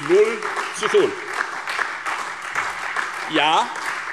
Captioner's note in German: Beifall Freie Demokraten, SPD und DIE LINKE